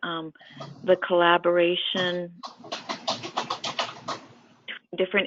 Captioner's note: clattering